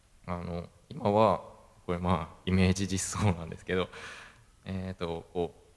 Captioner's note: laugh